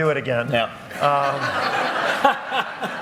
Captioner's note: laughter